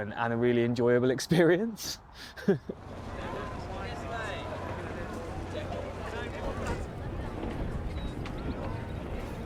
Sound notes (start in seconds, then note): 2.1 chuckling; 2.8 indistinct chatter